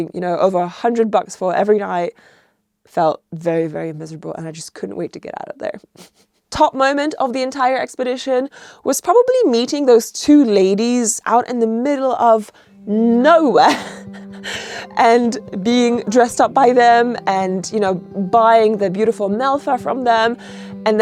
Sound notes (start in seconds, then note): 6.0 chuckles; 13.6 chuckles